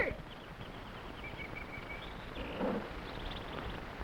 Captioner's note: animals chattering